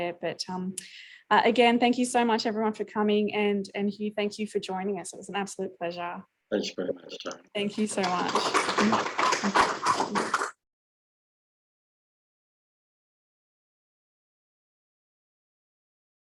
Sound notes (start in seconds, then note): 7.6 audience clapping